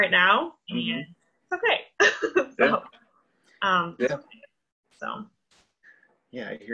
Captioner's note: laughs